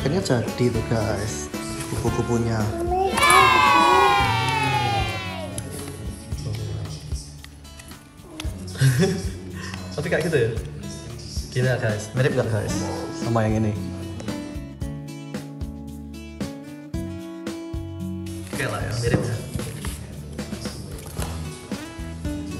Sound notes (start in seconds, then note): 11.6 chuckle